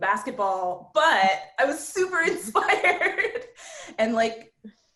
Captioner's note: laughs